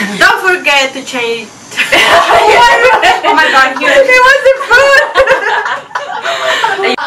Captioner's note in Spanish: risa